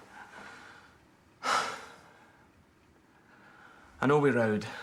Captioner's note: sighs